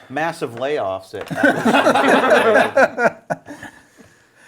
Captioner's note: group laughs